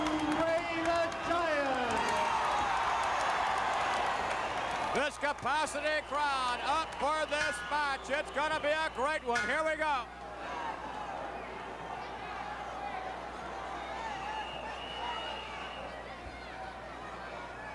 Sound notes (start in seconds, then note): 2.8 crowd cheers; 9.3 bell rings; 14.1 whistle blows